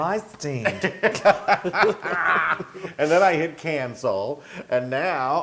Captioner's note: laugh